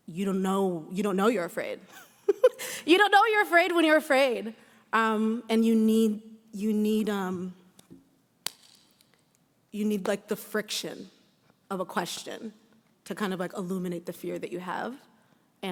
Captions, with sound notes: you don't know you're afraid. You don't know what you're afraid when you're afraid. And you need, (hand claps) you need like the friction of a question to kind of like illuminate the fear that you have